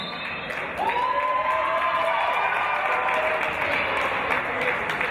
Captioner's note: referee's whistle; cheers and applause